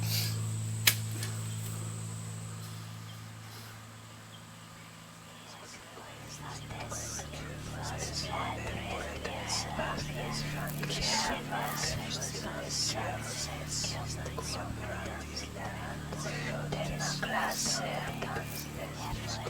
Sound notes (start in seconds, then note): 0.0 Larry sniffling; 6.7 ghostly whispering